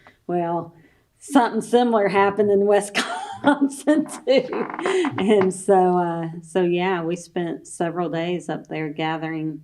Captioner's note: laughs